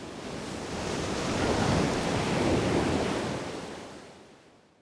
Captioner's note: waves crashing